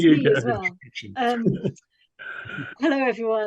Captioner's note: laughs